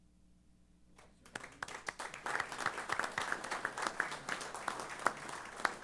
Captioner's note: applause